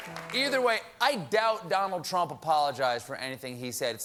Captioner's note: piano riff; applause